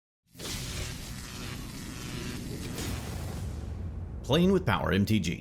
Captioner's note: electricity crackles